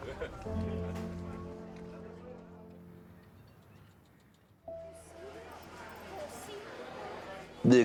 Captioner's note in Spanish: parloteo